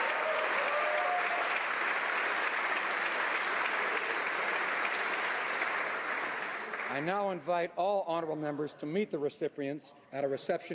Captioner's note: applause